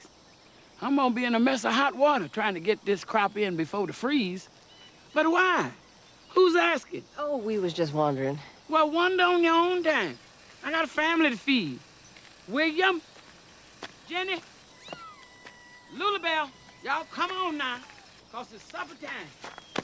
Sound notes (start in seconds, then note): 14.7 cats mewing